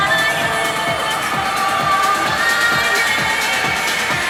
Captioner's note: crowd whistling